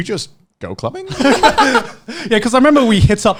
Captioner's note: all laughing